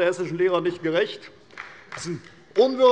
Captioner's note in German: Beifall bei der CDU und bei Abgeordneten der SPD